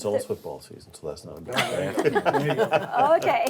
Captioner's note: board members laughs